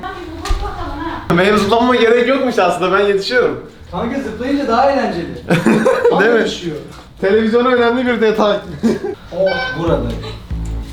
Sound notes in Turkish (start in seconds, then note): 9.4 Kapı zili